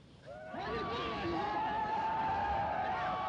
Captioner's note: yelling